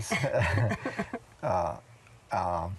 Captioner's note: chuckles